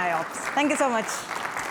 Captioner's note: applause